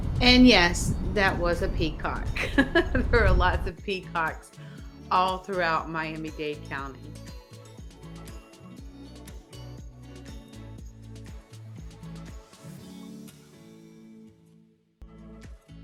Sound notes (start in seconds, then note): 2.3 chuckles; 8.6 light airy music